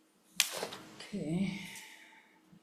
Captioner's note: paper rustling